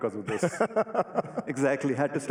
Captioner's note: laughs